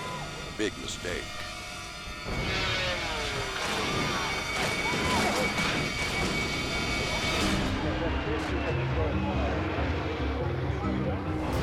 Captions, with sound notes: Big mistake. (snowmobile clattering) (tense instrumental music)